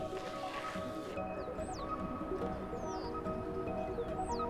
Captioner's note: birds chirping